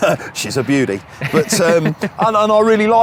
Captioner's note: laughing